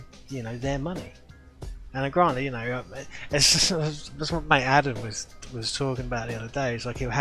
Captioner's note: laughs